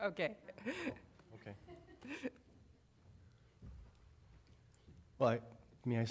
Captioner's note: laughter